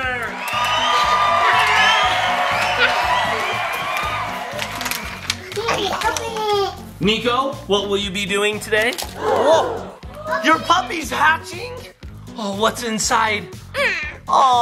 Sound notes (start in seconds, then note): 0.2 audience cheering; 4.5 plastic crackling